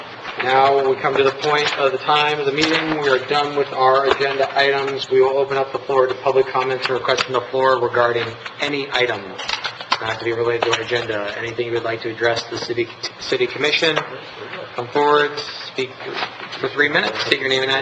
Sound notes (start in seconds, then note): none